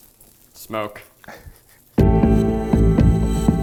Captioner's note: laughing; upbeat music